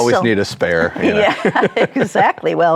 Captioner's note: laughs